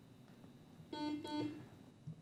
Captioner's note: buzzer beep